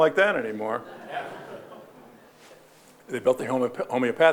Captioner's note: audience laughing